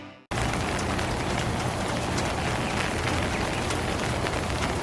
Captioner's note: gentle pattering rain sounds throughout